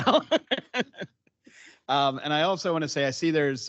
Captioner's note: laughing